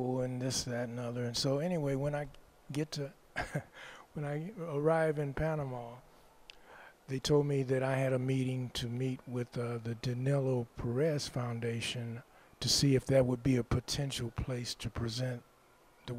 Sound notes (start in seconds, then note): 3.4 laughs